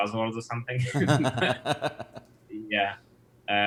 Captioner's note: both laughing